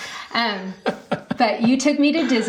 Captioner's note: laughing